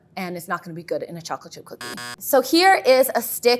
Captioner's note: buzzer sounds